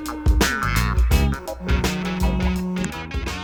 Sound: phone rings

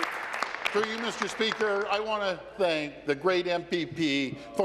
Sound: applause

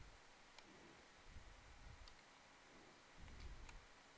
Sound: mouse clicking

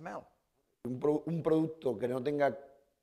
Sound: speaking spanish

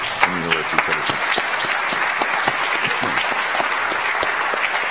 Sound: audience applauds

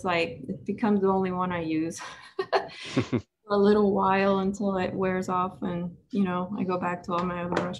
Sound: laughs

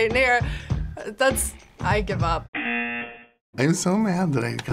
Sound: buzzer rings

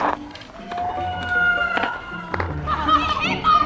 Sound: slow motion shouts; loud laughter

